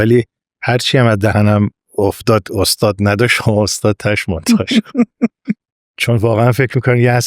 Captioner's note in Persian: خنده